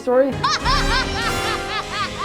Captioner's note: Sid laughs evil laugh